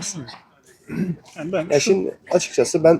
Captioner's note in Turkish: boğazını temizler